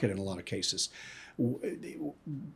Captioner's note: inhales